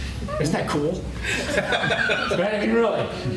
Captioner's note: laughter